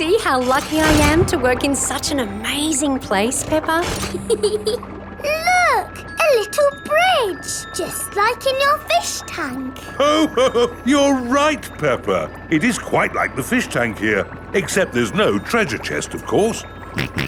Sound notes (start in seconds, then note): 4.1 peppa giggles; 10.0 laughs